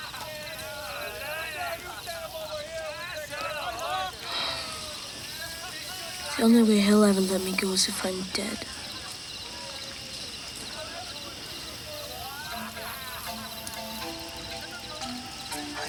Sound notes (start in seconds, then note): 0.0 gang members laugh and yell; 4.3 Ned sighs; 12.1 gentle music